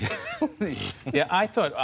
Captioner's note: laughter